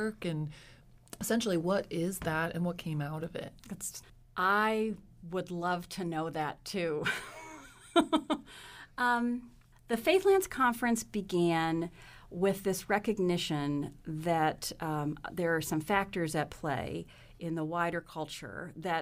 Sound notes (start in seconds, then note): 8.1 laughs